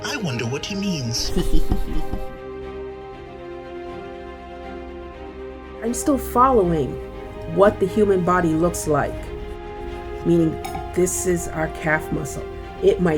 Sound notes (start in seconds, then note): 1.1 chuckling